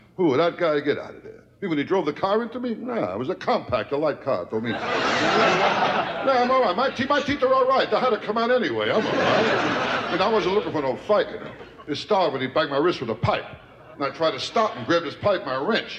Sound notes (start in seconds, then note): 4.7 audience laughter